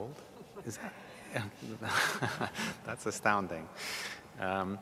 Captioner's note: laughs